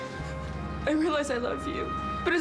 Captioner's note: crying